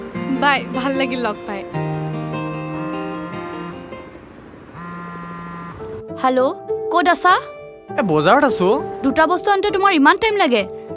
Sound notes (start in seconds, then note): 4.7 phone rings